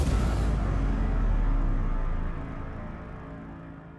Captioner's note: explosion blasts